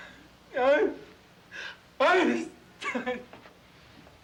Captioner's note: Casey groans